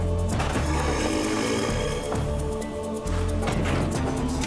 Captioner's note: rhino grunts